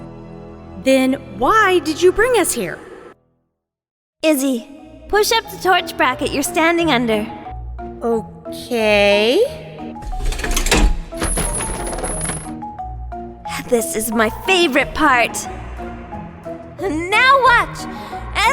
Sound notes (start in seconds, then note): 10.0 bracket pull, chains moving